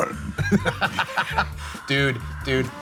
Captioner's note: laughing